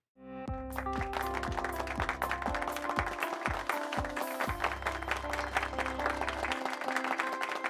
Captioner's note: light instrumental music; applause